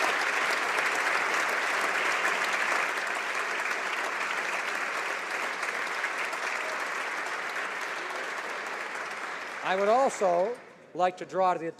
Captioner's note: applause